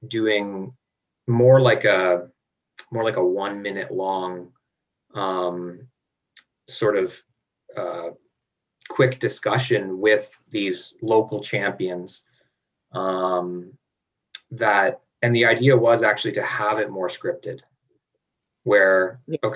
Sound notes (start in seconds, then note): none